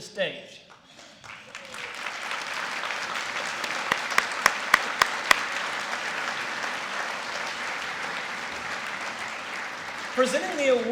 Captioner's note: applause